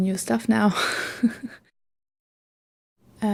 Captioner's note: laughs